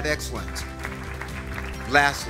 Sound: audience applauds

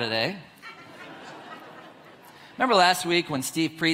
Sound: audience laughs

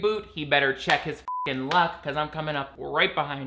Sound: beep

